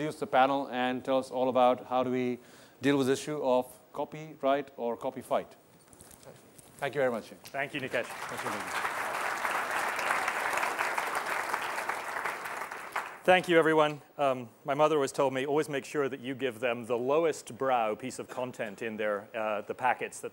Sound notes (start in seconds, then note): 7.5 applause